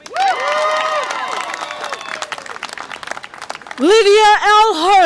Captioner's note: audience applause and cheer